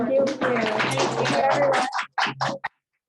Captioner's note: audience clapping